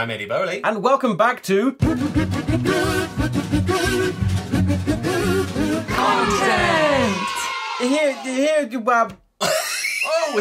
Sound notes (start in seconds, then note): 5.9 children cheer; 7.8 laughter; 7.8 stumbles over his words